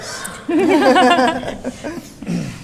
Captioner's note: laughter